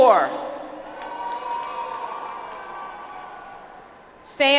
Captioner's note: audience applauds